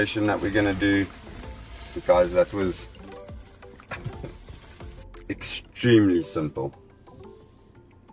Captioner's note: laugh